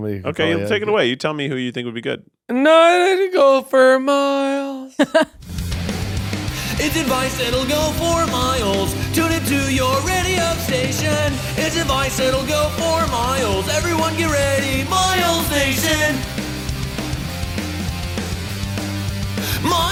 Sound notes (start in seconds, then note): 4.7 laughs; 5.2 punk rock music; 16.3 punk rock music continues